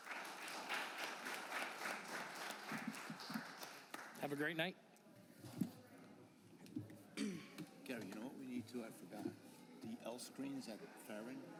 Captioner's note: applause